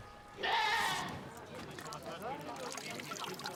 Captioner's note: bleating